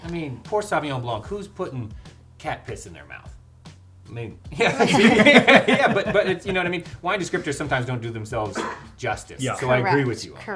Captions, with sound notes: - I mean, poor Sauvignon blanc, who's putting cat piss in their mouth. (laughs) Yeah, but it's you know what I mean? Wine descriptors sometimes don't do themselves justice. - Yeah. - Correct.